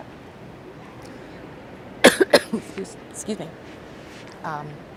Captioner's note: coughing